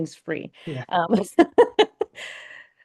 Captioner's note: laughs